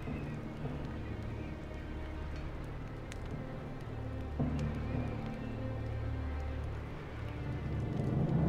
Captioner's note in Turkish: Ateş çıtırtı sesleri